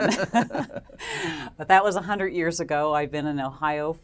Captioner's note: laugh